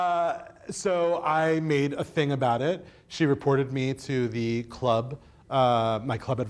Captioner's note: laughs